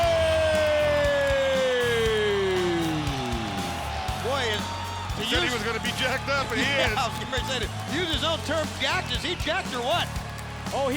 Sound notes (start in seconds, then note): 0.6 crowd cheering